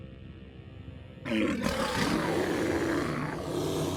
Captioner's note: growling